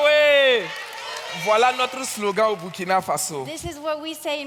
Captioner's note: audience claps and cheers; continues in French